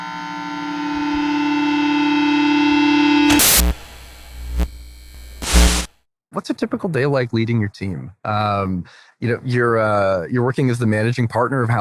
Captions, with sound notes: (buzzer) - What's a typical day like leading your team?